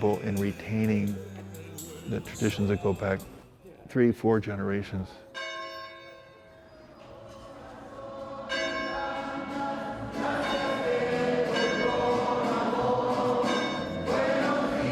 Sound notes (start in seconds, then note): 5.3 bell rings